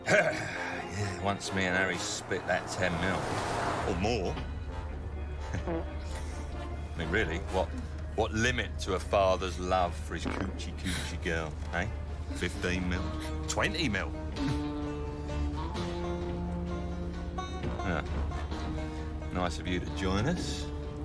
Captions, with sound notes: YEAH, ONCE ME AND HARRY SPLIT THAT 10 MILL-- - OR MORE... - ( man farts ) I MEAN, REALLY, WHAT-- WHAT LIMIT - TO A FATHER'S LOVE FOR HIS COOCHY-COOCHY GIRL, EH? - ( men farting ) $15 MILL? $20 MILL? HEH, NICE OF YOU TO JOIN US.